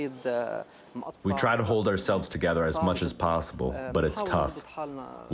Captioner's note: through translator